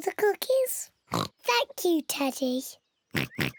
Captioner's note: in normal voice; oinking